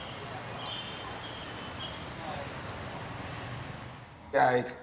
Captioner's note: street noise